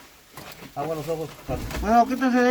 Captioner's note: Spanish